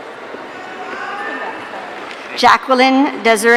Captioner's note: audience cheering